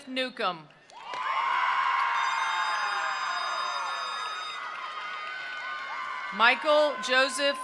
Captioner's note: attendees applauding; attendees cheering